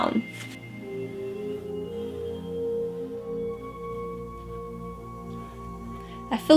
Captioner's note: soft brushing